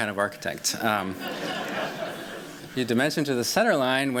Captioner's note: laughter